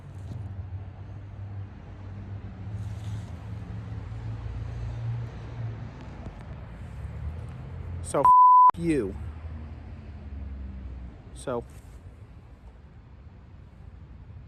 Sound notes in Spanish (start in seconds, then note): 8.2 bip